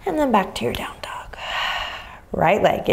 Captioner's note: exhaling deeply